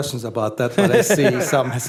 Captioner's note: laughter